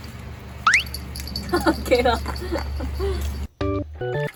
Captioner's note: laughing